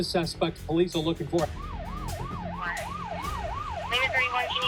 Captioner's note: police siren wailing